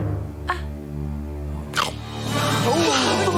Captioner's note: gulp